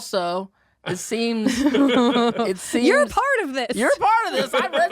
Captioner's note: chuckles